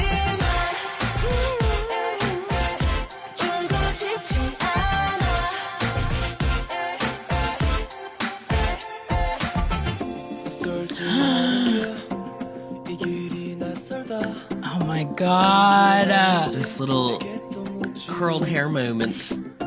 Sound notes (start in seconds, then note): 1.0 hums; 10.9 gasp